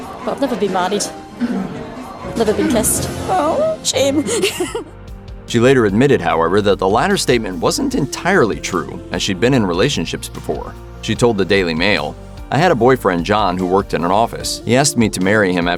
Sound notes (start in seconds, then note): 3.2 laughing